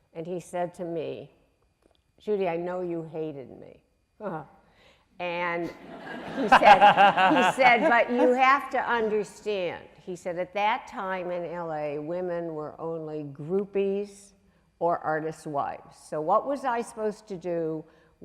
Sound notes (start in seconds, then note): 4.0 laughing; 5.7 audience laughing